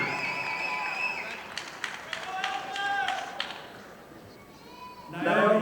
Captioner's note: audience applauding